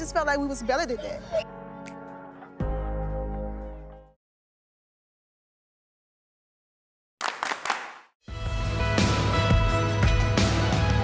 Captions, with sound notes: like we was better than that. [SOMBER MUSIC] [CLAPPING]